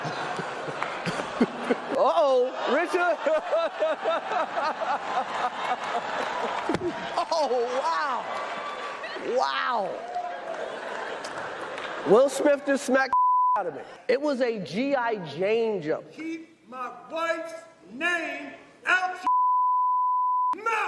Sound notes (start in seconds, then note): 10.2 laughter